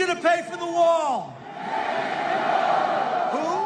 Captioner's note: crowd